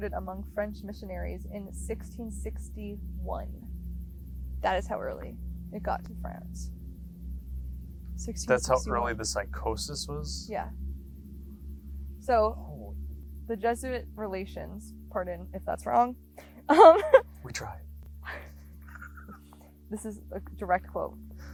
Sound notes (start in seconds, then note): 16.4 laughs; 18.9 both laughing